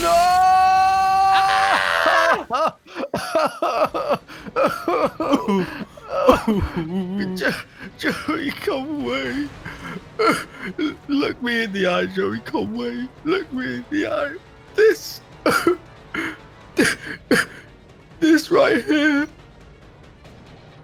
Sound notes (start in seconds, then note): 1.9 screams; 2.8 sobs; 15.4 sobs